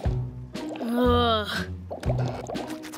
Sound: groaning

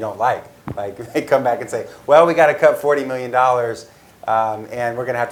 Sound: laugh

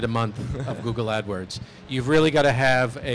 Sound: laughter

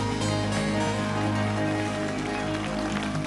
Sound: applause

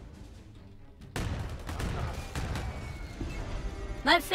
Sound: guns firing

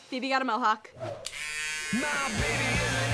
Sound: buzzing

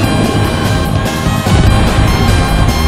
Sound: explosion

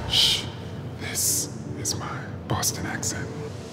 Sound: whispering

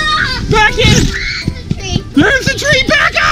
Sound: screaming

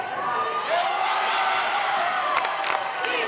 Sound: crowd cheering

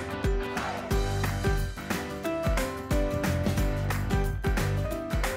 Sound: applause

